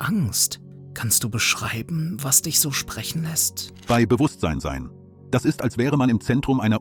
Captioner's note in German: flüsternd; flüsternd